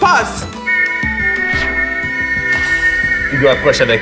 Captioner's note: Riz'shar whistles a major chord